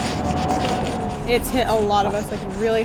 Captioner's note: chalk scraping